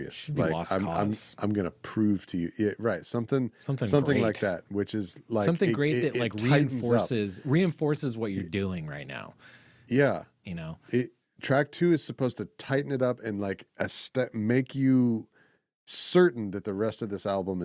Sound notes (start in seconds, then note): none